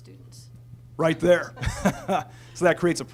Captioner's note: laughter from all